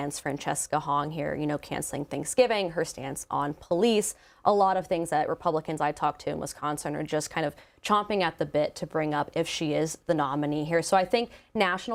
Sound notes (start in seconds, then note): none